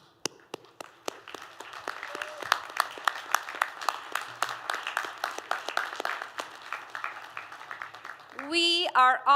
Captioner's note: applause